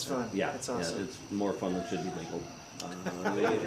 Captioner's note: laughs